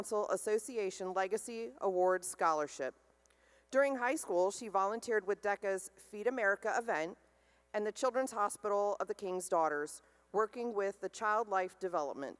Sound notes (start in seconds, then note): none